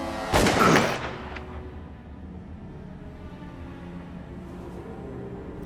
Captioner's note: gun fires